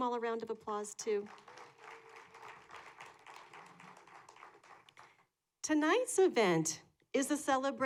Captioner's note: applause